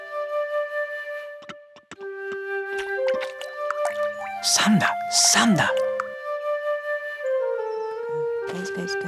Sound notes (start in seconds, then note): 3.0 water dripping; 4.6 speaks in another language